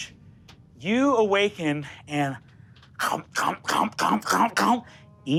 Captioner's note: chomps